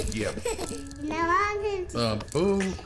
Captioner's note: babbles